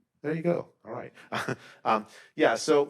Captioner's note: laughs